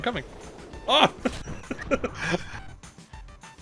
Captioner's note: laughs